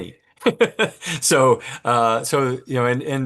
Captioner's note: laughs